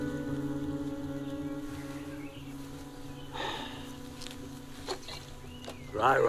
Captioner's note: sighs